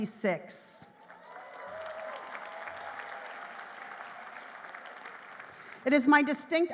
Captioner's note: applause